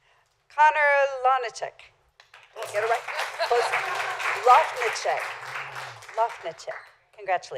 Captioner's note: laughter